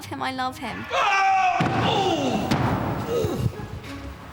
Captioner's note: screams then groans